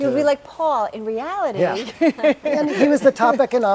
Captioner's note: laugh